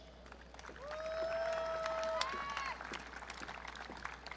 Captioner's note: audience cheering